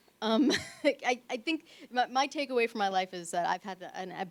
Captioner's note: laughs